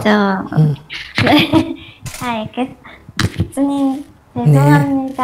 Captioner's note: questioner Laughter